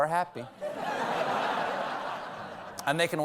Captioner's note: laughter